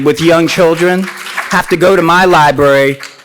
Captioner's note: applauds